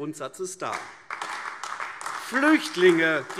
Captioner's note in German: Beifall AfD